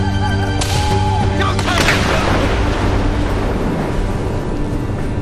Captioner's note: gunshot bangs